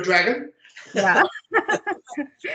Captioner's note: laughter